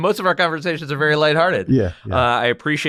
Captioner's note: laugh